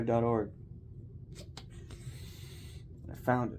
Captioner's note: nose rub & sniff